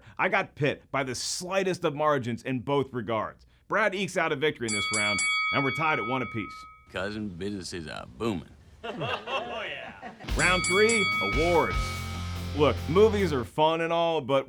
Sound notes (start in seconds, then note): 4.7 dinging; 8.8 laughing